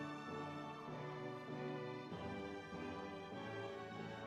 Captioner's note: crowd cheers